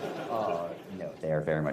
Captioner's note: laughter